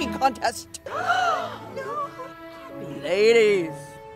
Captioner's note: attendees gasping